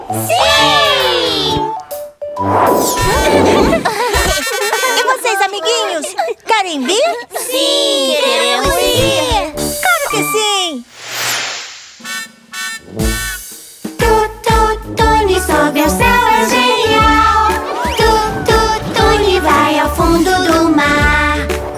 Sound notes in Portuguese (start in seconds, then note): 2.1 Som de buzina; 3.0 Risos; 11.6 Som de buzina